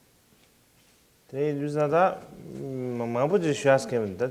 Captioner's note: non-english speech